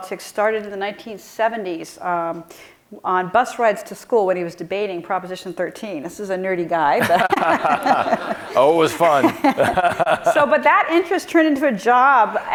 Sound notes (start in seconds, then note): 7.0 laughing; 10.0 laughs